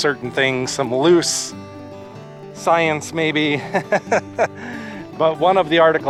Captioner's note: laughter